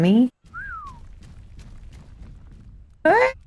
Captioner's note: whistles